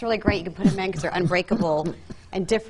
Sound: coughs

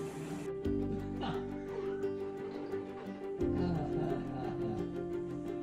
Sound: laughs

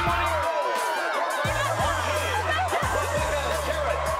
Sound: cheering

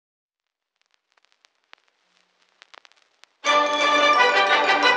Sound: radio crackle

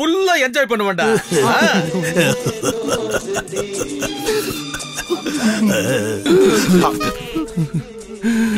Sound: crying

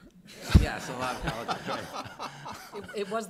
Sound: all laughing

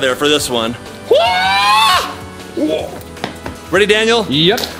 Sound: yelling

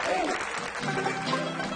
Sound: audience applauds

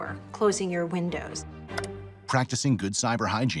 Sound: dramatic music; mouse clicking

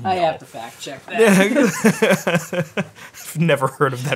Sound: laughs

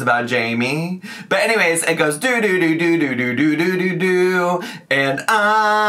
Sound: humming

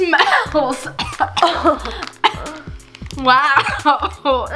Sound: coughing

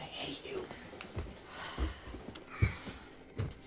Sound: sighing

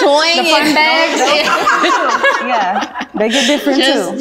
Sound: all laughing

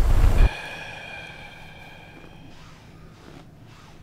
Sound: exhales

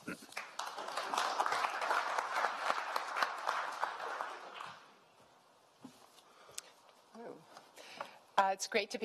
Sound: applause

